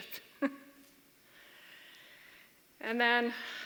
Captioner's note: laughter